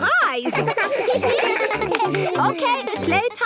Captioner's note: children giggling